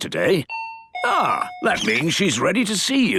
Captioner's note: dinging